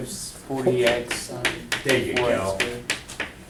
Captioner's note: voiceover